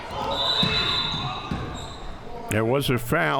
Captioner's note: whistle blowing